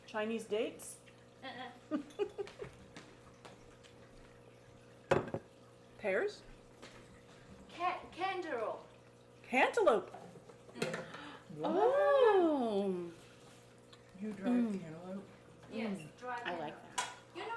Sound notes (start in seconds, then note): 1.9 interviewer laughing; 5.1 dish thumping